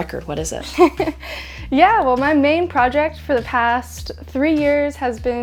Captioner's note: chuckles